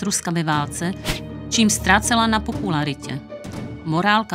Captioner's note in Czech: svištící střela